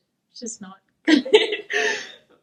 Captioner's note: laughs